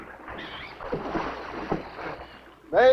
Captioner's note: water splashing